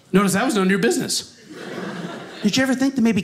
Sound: audience laughing

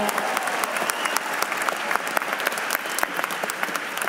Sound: cheers and applause

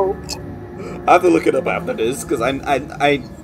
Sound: stutters

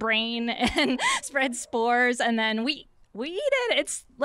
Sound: laughter

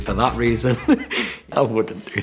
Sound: laughs

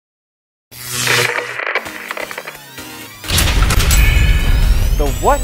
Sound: sound Effects

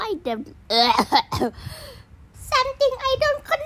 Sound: coughs

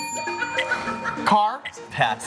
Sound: bell dings

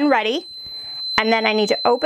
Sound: heat press beeping

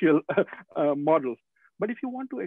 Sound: laughing

